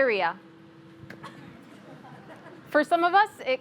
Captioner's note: audience laughs